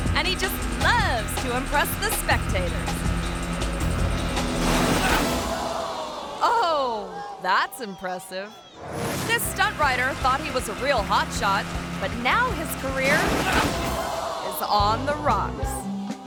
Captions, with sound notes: and he just loves to impress the spectators. (jet ski crashing) (audience reacting) Oh, that's impressive. This stunt rider thought he was a real hot shot, but now his career is on the rocks.